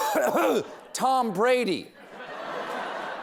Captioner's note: clears throat; cough